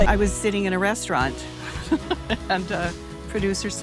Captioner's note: laughs